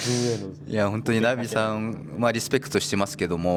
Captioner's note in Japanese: 鼻息